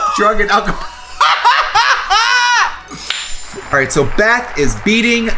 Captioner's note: laughing